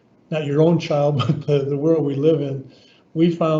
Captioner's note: chuckles